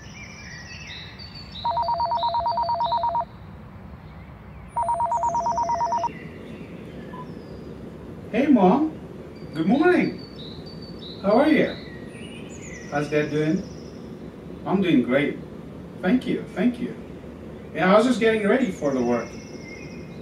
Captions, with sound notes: (Phone Ringing) hey mom..!! Good Morning. how are ya' ? hows dad doing? I'm doing great. Thank you. Thank you. Ya, I was just getting ready for the work.